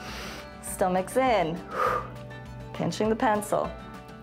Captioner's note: exhales; inhales